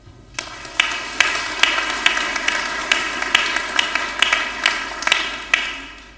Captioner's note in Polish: oklaski